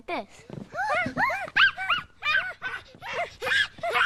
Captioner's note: hooting